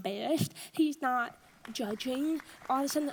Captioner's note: audience applauds